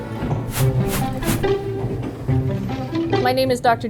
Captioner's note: whimsical music; logo whooshes into view